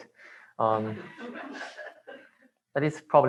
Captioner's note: laughter